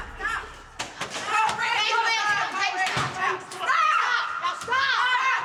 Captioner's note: yelling